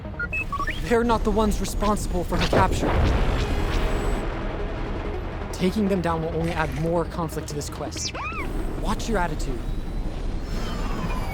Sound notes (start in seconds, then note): 0.2 R7 chirping; 7.9 R7 complaining